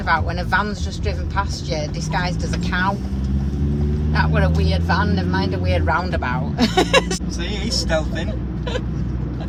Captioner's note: laughing